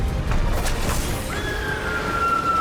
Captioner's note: wolf howls